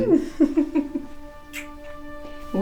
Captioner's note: Jessica giggles; soft music; lips smacking